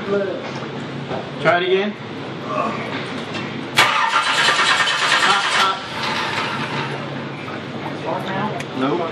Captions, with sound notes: - Try it again. (engine starts) - Stop, stop. - On now?